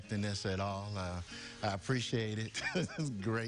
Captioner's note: laughter